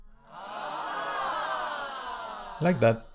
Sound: sound: crowd Aaah!

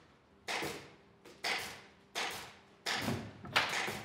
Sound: rhythmic working noise in the background

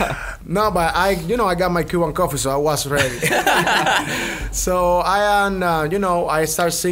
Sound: laughs

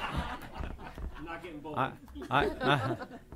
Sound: laughter

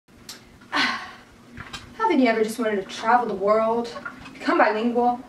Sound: sigh

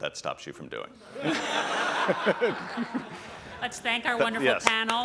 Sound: laughter

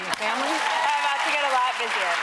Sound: audience applauding

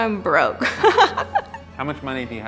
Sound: laughing

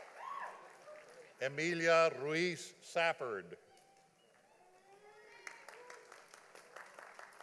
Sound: audience applauding

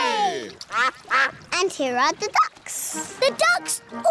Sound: quacking

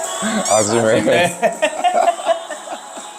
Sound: Gyeongsang-do dialect

